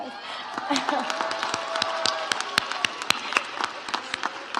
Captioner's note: audience applauds